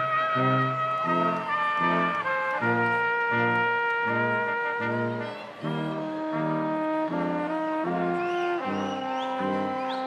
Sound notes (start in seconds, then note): 0.0 crowd cheering